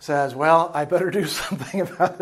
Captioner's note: chuckling